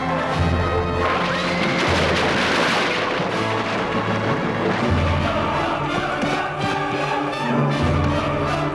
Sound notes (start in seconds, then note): 1.3 horse neighs